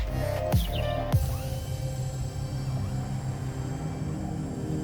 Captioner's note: servos whirring